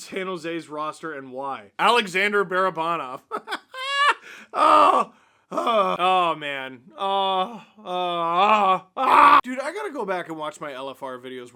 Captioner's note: laughter